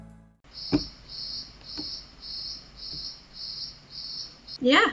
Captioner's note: cricket sounds